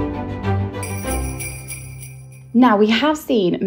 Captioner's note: theme music; bell ringing